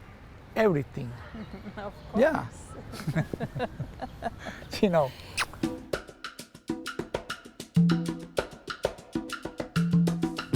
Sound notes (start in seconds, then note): 2.9 laughs; 5.2 kiss; 5.9 upbeat music